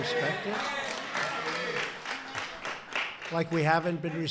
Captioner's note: applause